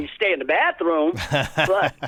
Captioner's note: laughter